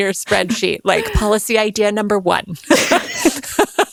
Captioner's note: laughing